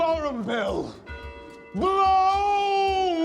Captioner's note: bells tolling